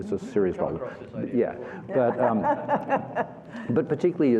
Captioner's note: laughter